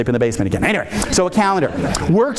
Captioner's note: audience laughing